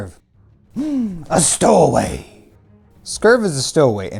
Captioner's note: gasp